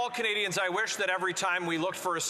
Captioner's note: some Applause